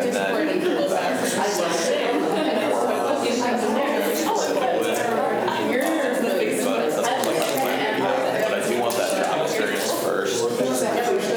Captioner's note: students chatter